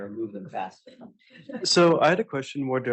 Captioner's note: laughter